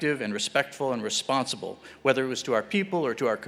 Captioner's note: none